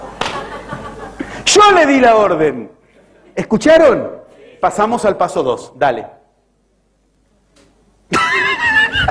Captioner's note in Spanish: risas